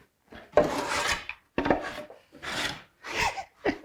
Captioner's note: wood clacking